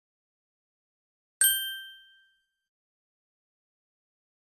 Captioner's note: ding